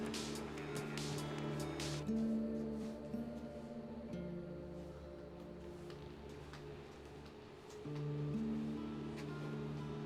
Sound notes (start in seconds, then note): none